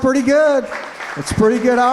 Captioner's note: applause